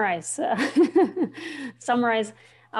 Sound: chuckling

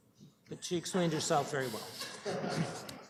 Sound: laughter

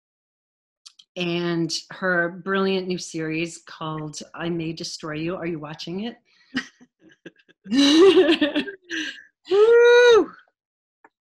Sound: laughter

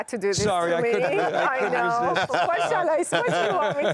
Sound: laughing

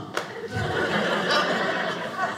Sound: audience laughing

